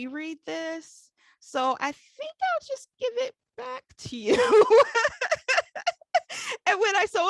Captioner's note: laughs